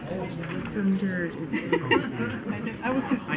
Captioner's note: murmuring